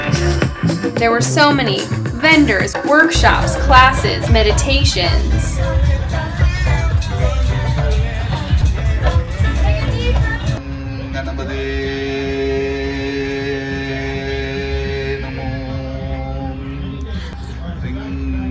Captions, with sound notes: There were so many vendors, workshops, classes, meditations [Singing] [Chanting]